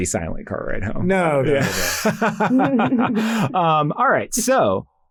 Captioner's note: laughs